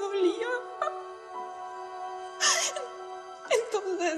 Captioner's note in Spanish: Sollozos